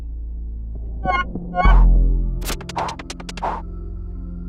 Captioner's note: game sound effects